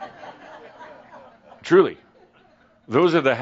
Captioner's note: laughter